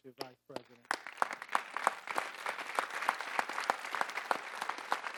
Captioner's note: audience applauding